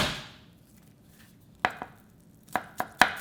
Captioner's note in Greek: μπανγκ; τσοπ τσοπ τσοπ